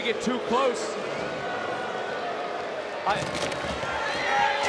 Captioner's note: crowd boos